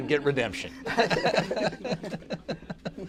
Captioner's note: laughter